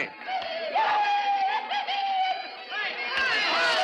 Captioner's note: whooping and hollering